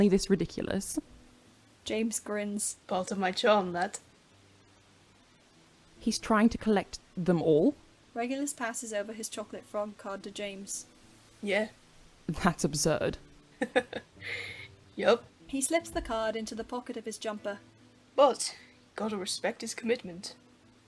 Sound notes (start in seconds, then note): 13.6 laughs; 13.6 Regulus laughs; 20.6 music plays softly